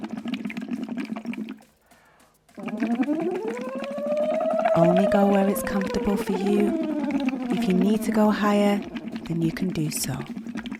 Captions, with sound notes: (water bubbling through straw) (humming) Only go where it's comfortable for you. If you need to go higher, then you can do so.